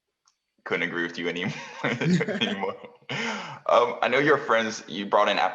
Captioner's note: laugh